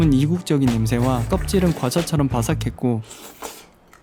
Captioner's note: slurping